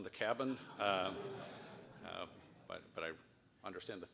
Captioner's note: laugh